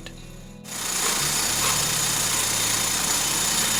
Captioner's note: mechanical whirring